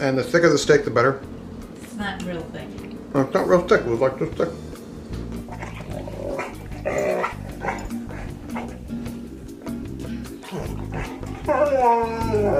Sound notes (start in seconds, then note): 5.2 dogs panting and whining; 5.8 soft jazz music